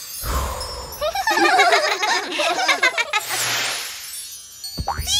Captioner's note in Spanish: Risas